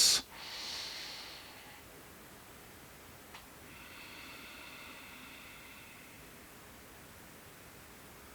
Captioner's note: breathing